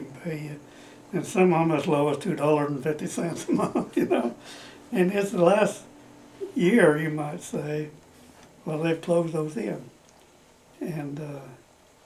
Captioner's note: laughs